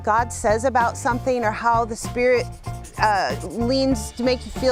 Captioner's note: scratching